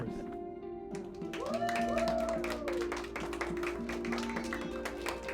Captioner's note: people applaud and cheer